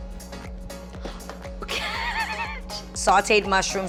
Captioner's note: laughs